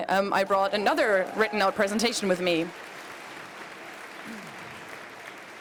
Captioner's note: applause